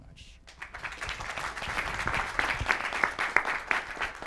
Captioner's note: audience clapping